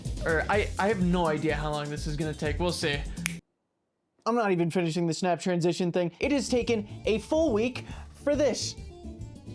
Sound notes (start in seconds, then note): 3.2 snap